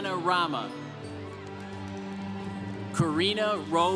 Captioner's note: congregation cheering